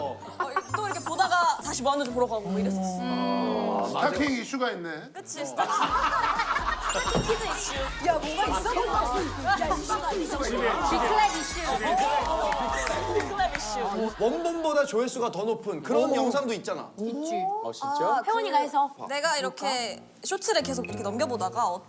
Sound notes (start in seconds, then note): 10.4 big round of applause